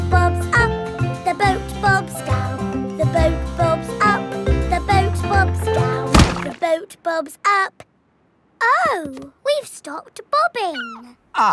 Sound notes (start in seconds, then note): 6.1 thuds